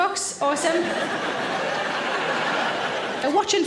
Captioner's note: audience laughing